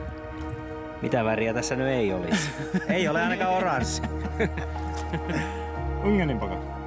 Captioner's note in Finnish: naurua